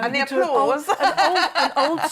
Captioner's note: laughs